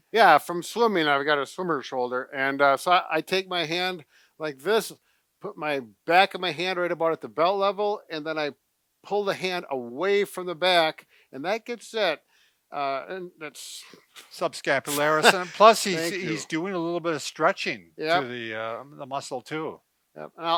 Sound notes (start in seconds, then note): 14.9 laughs